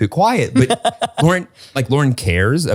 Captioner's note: laughs